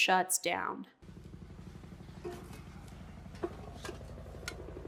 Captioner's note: helicopter whirring